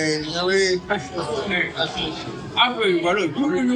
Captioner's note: background bar noise